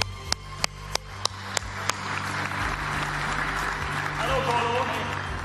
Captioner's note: audience applauding